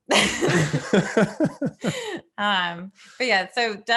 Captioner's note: both laughing